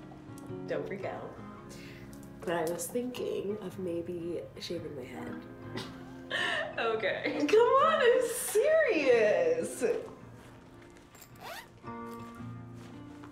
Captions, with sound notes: Don't freak out. But I was thinking of maybe shaving my head. [Laughs disbelievingly] Okay. - C'mon, I'm serious!